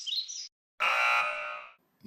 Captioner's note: birds chirping; buzzer